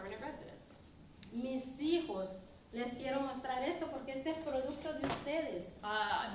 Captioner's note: speaking spanish